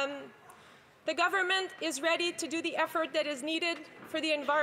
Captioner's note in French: voix de l'interprète